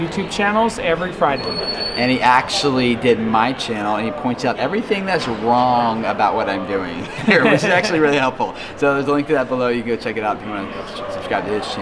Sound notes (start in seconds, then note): 6.9 laughing